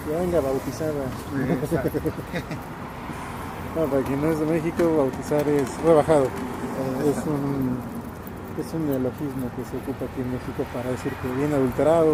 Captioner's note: laughs